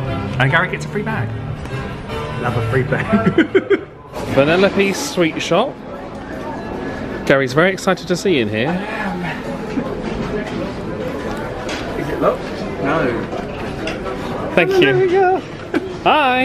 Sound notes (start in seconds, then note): 2.9 laughs